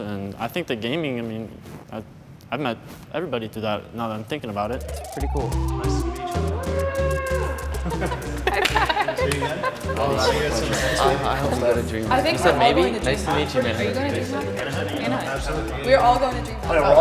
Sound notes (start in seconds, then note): 11.3 upbeat music; 12.3 laughter